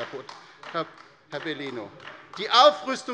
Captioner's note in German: Beifall bei der LINKEN